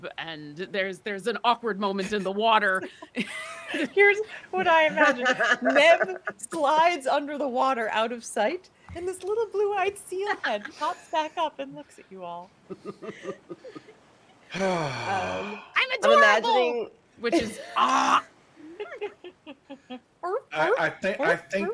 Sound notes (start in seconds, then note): 2.8 people laughing; 12.7 person chuckling; 14.5 deep exhaling; 18.3 mimics seal barking